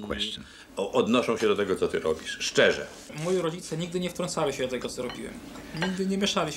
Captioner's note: speaking Polish